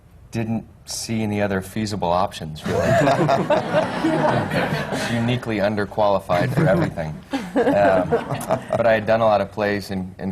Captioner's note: laughter